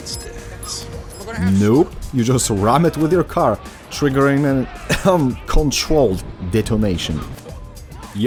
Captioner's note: cough